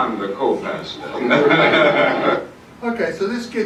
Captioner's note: Dr. King and Merv Griffin laugh